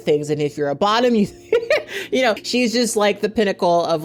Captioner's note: chuckles